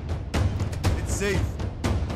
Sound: door closes

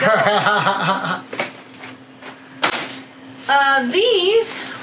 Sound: laughs

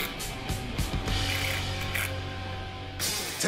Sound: buzzing

